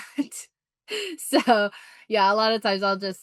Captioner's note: chuckles